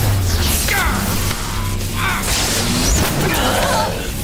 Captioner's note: grunts